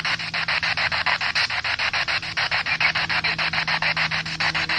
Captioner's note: spirit box sound